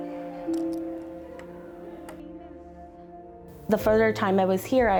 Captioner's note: pens thudding